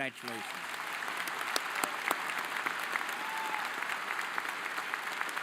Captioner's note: audience applauding